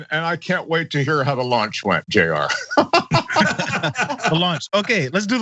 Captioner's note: laugh